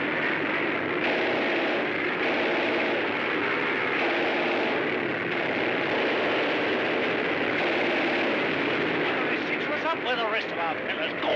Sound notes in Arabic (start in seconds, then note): 0.0 هدير طائرة; 0.9 إطلاق نار من مدفع رشاش